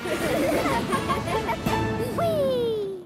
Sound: giggling

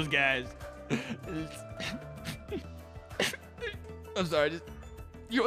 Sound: crying

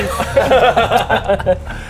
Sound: unorganised laughter

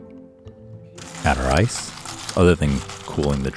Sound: ice clinking

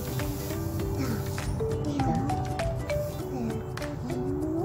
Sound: whispering

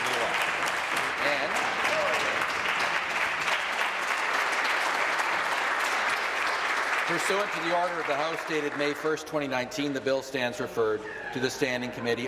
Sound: applause

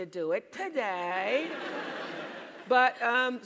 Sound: laugh

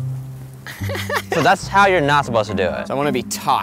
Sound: laughs

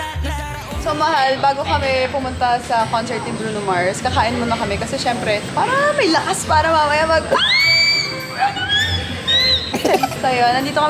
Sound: shouts

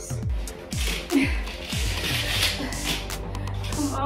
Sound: grunting

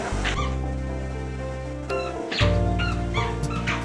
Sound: squeaky shoes

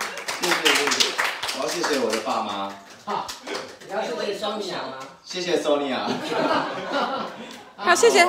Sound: everyone laughs

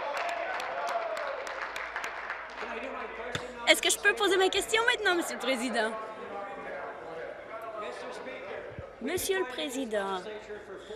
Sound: applause

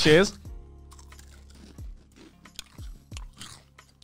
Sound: crunching

